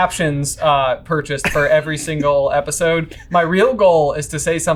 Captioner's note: laughing